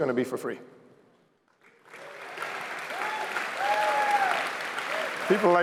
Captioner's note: applause